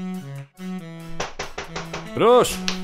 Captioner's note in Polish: pukanie do drzwi